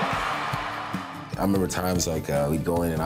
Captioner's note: cheers & applause